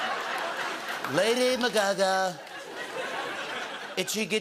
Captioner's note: As Trump